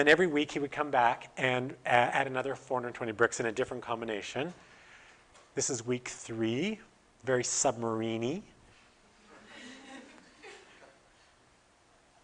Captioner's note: audience: Laughter